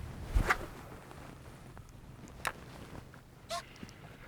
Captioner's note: rod whips; reel whirring